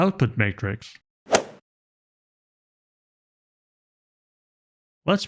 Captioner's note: golf ball hit sound effect